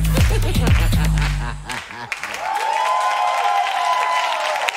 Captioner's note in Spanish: Aplausos y ovaciones